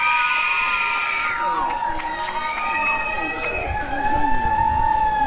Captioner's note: applause and cheering